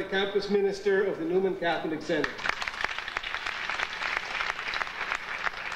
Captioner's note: audience applauding